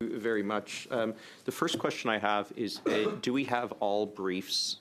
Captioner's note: speaking French